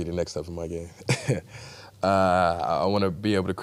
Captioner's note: laughs